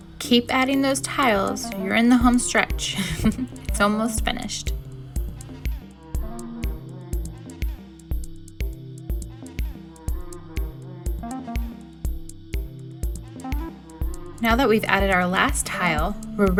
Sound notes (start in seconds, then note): 2.9 laughing; 6.1 upbeat music